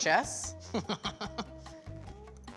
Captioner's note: laughing